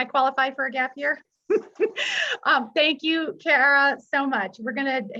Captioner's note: chuckles